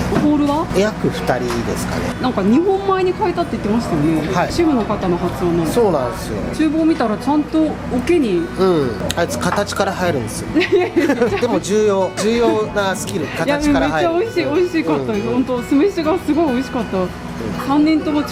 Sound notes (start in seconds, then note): 10.4 laughs